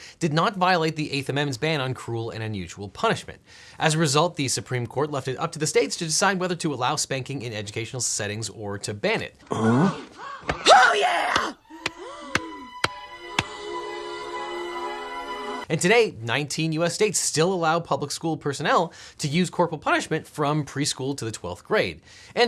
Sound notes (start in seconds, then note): 11.4 students gasping; 11.5 ominous music